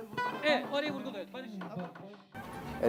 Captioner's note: speaking and singing Turkish